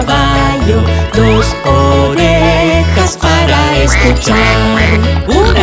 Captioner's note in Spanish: Sonido de pato